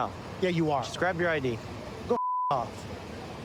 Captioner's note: beep